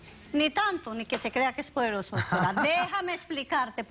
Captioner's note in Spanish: Risas